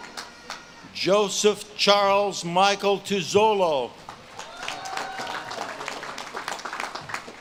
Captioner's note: audience claps and cheers